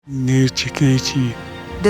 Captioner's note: speaking in Dane-zaa language